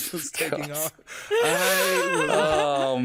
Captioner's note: all laughing